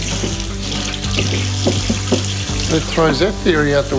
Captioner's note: water runs